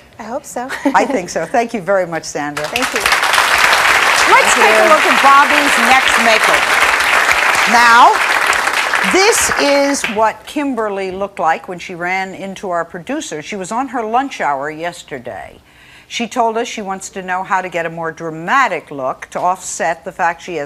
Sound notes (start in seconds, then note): 3.4 audience clapping